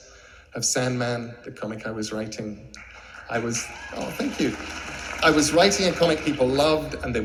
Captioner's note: clapping